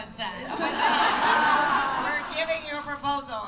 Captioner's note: laughter